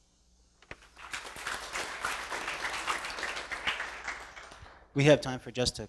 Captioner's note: applause